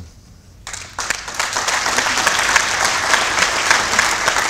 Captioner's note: applause